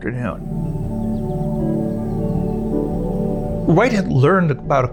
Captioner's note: serene music; birds chirping